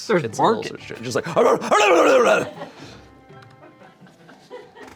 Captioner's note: growls